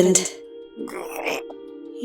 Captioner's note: groan